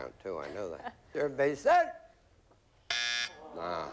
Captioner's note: buzzer